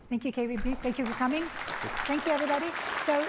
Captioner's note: applause